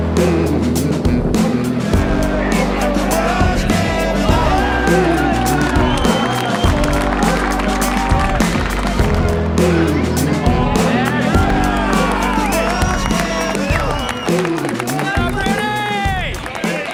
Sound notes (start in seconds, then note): 2.7 crowd cheers; 4.9 players clap and yell